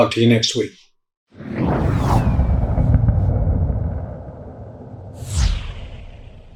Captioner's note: logo whooshes dramatically